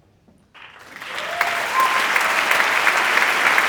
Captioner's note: applause